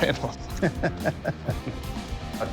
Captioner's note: laughter